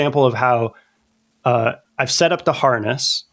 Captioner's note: uh